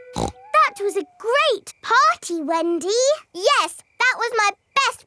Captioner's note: snorts